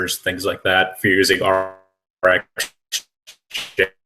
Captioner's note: static